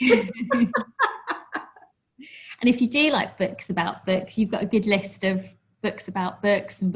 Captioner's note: laughs